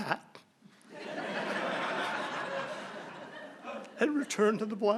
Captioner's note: laughter